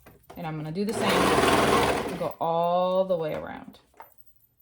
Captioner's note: machine whirring